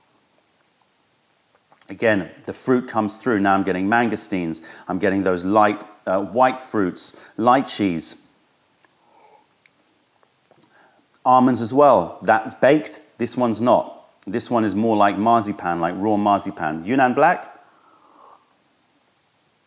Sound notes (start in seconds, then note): 1.2 sips tea; 10.1 sips tea; 18.5 sips tea